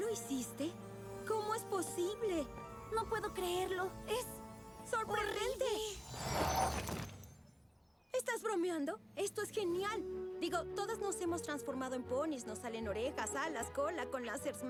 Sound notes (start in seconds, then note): none